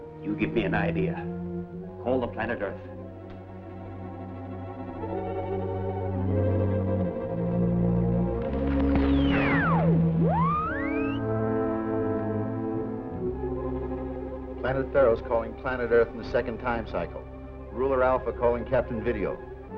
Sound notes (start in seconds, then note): 10.2 squealing